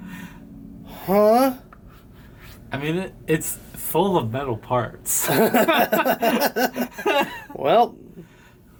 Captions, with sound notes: Huh? - I mean it, it's full of metal parts. (laughs) - Well.